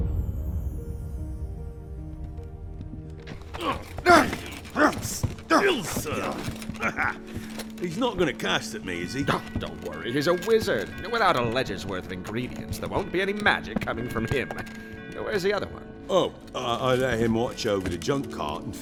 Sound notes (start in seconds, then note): 3.5 grunting